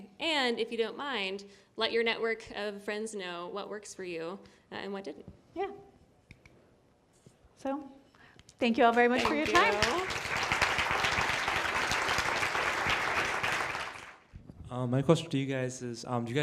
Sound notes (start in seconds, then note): 8.8 applause